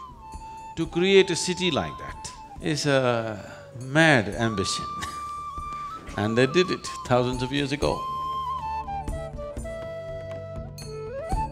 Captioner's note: laughs